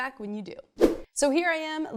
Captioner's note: fast whoosh